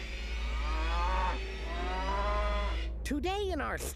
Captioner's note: cow mooing